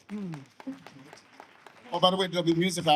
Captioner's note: audience applauds